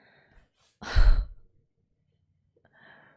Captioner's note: exhales